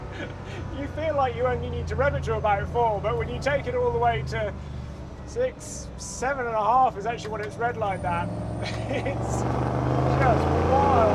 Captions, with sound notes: (laughs) You feel like you only need to rev it to about four but when you take it all the way to six, seven and a half is actually what it's redline at, it's just wild.